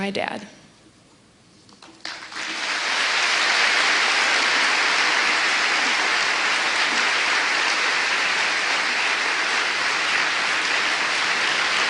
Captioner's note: applause